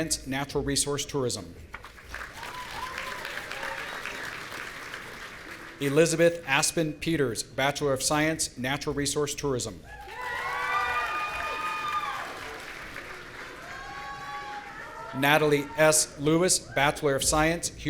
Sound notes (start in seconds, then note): 1.8 audience applauding; 9.9 audience cheering